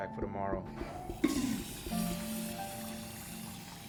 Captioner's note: toilet flushing